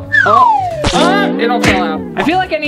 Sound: splattering

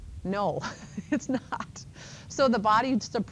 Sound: laughing

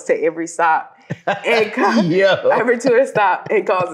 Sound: laughing

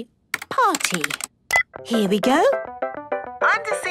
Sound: beep

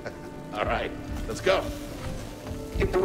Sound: chuckles

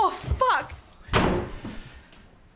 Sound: door slams

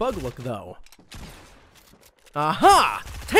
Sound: gunshots

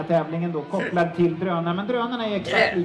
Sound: grunt

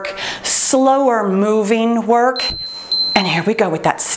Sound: timer beeps

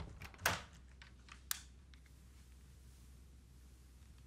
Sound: switch clicks

